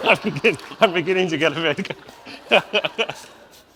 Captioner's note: audience laughs; laughs